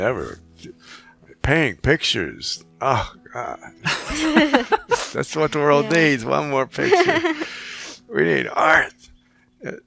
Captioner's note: laughing